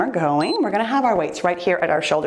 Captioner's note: timer beeps